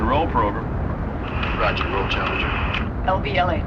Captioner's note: man On Radio